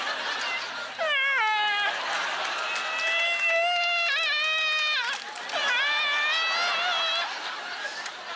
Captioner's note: audience laughter; whining; winching continues; audience laughter